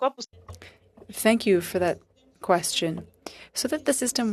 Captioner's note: speaking FRENCH